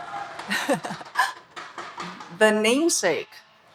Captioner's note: speaker laughing